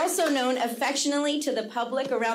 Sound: audience clapping

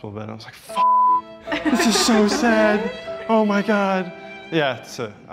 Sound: beep

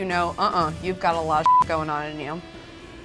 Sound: beep

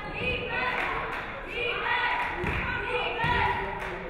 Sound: audience cheering

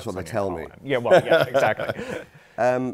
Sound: laughs

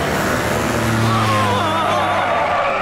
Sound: screaming

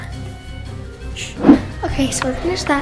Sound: shushing

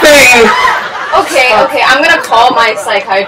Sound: laughter continues

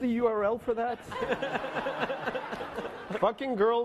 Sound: laughing

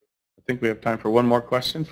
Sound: voiceover

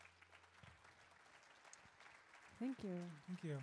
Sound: audience claps

